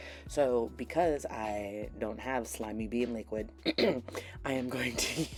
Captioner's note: clears throat